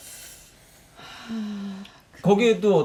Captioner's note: sigh